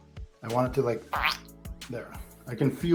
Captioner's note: squelching sound